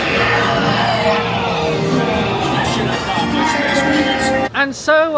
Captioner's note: score display powers down; lively music